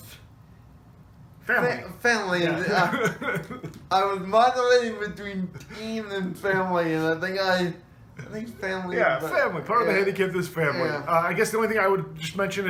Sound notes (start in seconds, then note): 2.4 laughs